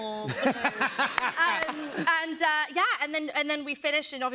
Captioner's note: laughter